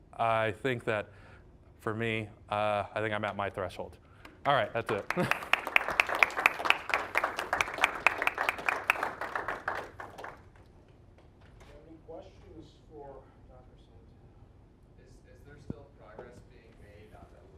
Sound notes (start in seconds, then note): 4.4 applause